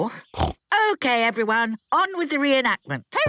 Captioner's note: snorts